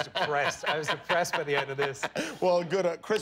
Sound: laughter

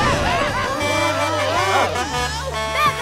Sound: honking

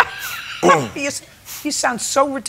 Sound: laughs

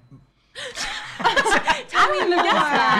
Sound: laughing

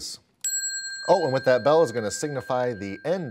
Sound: ding

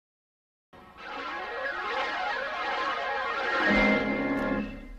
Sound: swirling sounds continuing still

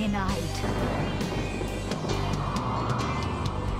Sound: reading aloud; wind whistling

